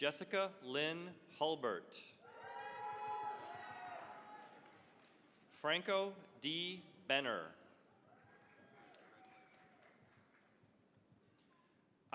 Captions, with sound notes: Jessica Lynn Hulbert. (cheering, applause) Franco D. Benner. (cheering, applause)